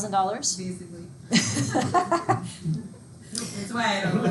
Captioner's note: all laughing